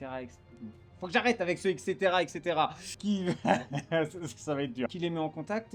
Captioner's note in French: rire